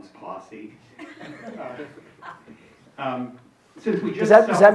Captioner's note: audience chuckling